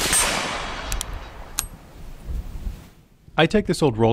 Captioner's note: gun bangs; gun cocking